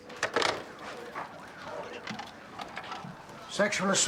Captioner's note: distant sirens wail